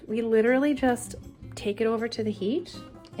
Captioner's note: none